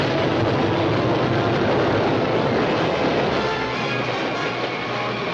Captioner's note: train rumbling